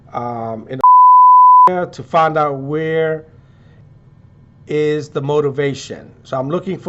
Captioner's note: beep